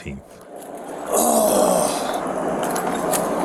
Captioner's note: grunting